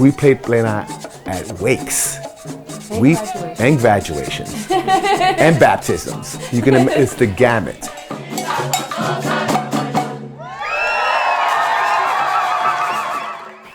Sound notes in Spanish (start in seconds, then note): 2.9 Ríe; 10.4 Aclamaciones y aplausos